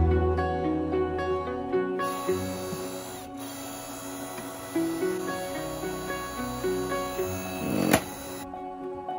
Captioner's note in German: Holzspaltergeräusch